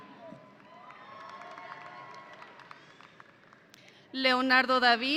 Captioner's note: audience applauding